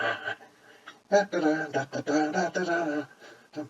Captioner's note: humming